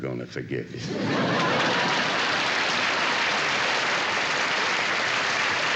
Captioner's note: applause